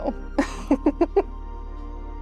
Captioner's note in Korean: 웃음